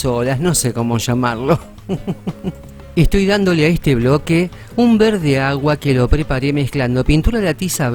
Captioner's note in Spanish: risas